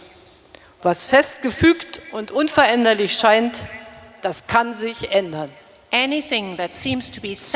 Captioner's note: speaking in German